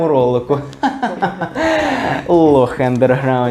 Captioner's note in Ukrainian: сміх